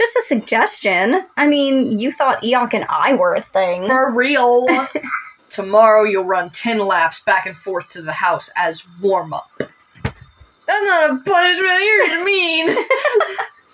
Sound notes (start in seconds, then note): 4.6 chuckle; 12.6 laugh; 12.6 chuckle